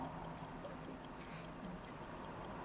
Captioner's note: soft ticking